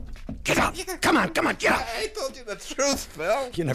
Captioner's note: hand slaps